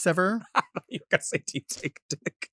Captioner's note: laughs